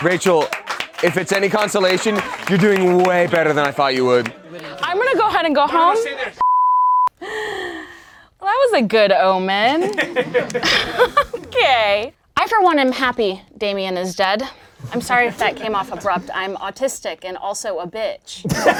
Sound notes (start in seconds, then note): 6.4 beeps; 9.6 laughing; 18.5 laughing